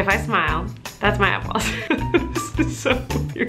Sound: laughs

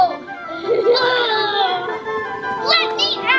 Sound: laughs

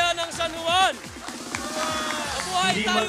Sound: crowd

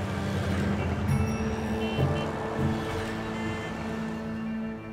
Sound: bell rings

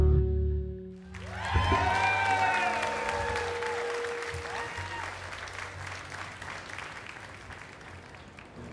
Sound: applause

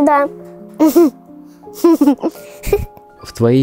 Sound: giggling

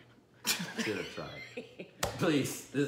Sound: laughing

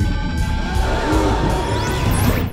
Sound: gasping

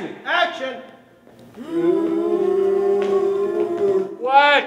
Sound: moaning

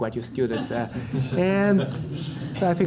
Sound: audience laughter

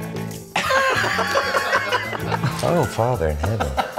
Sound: laughing

